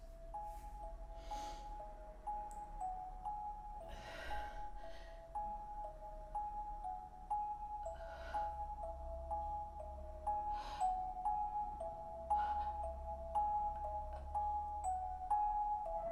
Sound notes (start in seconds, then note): 0.1 eerie chime music; 3.8 Leona breathes heavily